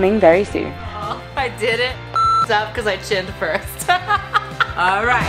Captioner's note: laughs